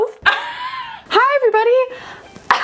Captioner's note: wheezing